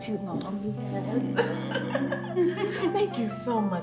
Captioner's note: laughing